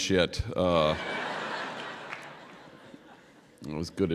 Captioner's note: laughter